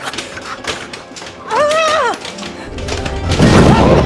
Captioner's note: Sarra moaning; dramatic music